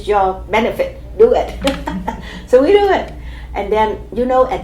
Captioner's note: chuckle